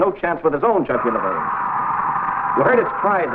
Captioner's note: serpent screeching